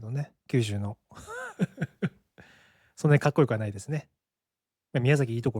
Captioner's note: laughs